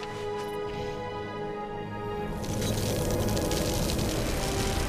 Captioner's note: wind howling; dramatic music